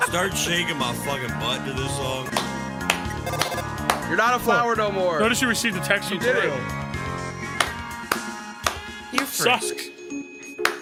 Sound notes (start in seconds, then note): 2.8 clapping